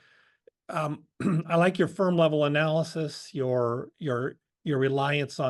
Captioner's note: cough